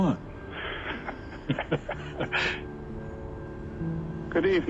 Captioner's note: both chuckle